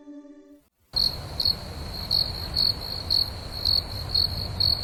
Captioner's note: crickets